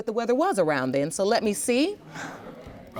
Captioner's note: scoffs